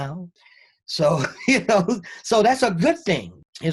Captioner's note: both laugh